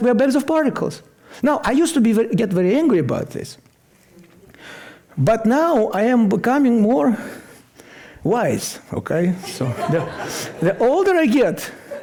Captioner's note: laughter